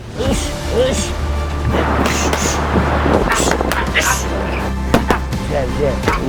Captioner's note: men grunting